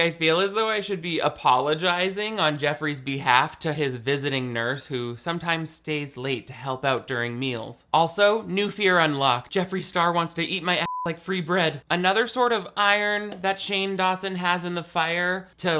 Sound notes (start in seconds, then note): 10.8 beep